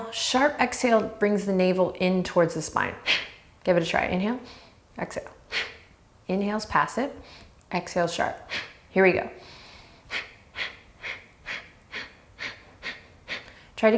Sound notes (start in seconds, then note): 3.0 exhales; 9.4 inhales and exhales